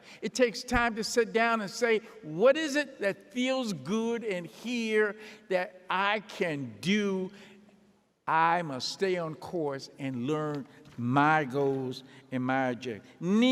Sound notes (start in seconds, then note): none